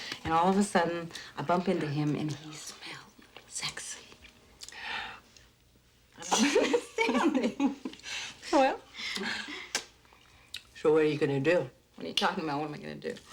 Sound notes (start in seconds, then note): 4.7 gasps; 6.2 both laughing